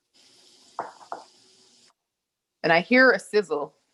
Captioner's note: salmon sizzles